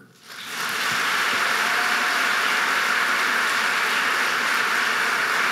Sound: audience cheering and applauding

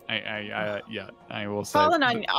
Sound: scoffs

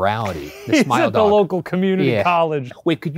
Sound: laughing

